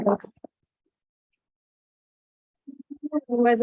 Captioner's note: silence